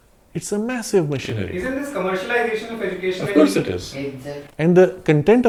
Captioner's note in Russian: из зала